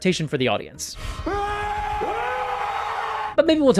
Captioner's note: primal yells